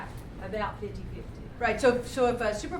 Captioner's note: voiceover